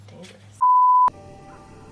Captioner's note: beep